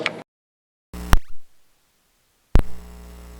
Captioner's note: audio mutes